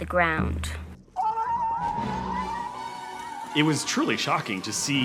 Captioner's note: children yelling